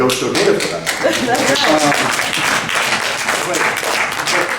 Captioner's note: clapping